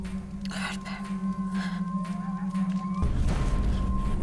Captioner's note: whispering